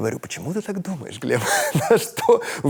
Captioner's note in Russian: смеется